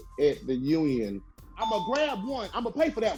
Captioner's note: bell chiming